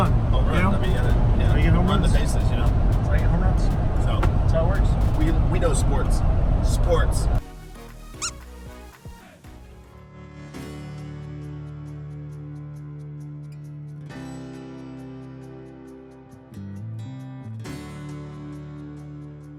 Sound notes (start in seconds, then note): 8.1 squeak; 10.2 upbeat music